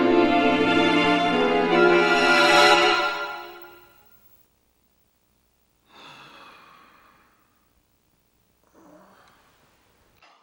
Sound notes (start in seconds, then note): 5.9 sighs